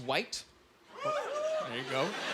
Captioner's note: scattered cheering